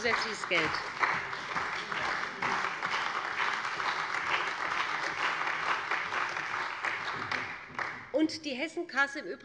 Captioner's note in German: Beifall bei dem BÜNDNIS 90/DIE GRÜNEN und der CDU